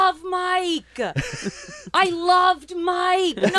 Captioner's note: laughs